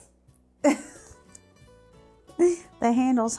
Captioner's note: giggling